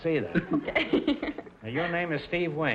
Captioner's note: laughing